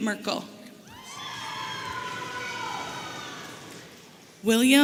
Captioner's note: audience cheering